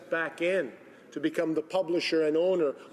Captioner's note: speaking Italian